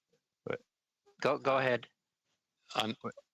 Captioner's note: speaking French